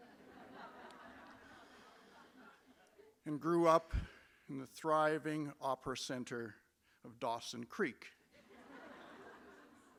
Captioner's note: laughter